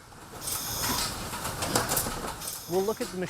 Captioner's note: packaging machine making boxes